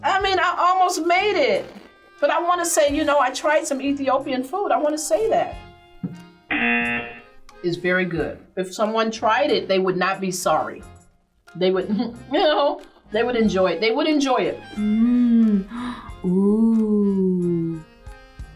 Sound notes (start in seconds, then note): 6.5 buzzer rings; 11.9 laughs; 14.7 gasps